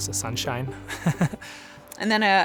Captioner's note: laughs